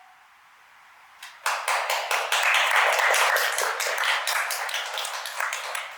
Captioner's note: applause